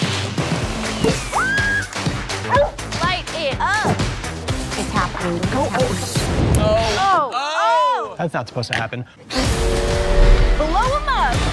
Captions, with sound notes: -(SCREAMS) -(BARKS) Light it up! It's happening. (JUDGES EXCLAIMING) That's not supposed to happen. Blow 'em up!